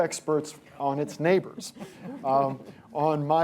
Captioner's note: laughter